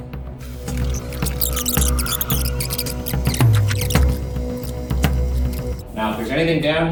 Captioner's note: tense music; videotape squealing